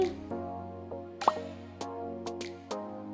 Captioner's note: popping noise; slow music